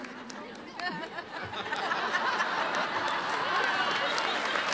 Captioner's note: audience chuckles